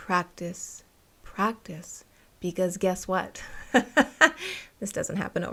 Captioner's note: laughter